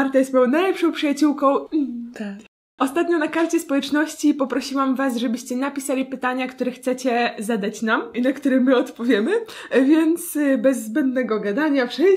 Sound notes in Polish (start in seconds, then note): 1.3 słodko